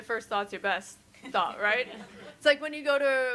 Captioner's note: all chuckle